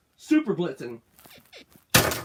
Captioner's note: bed squeaks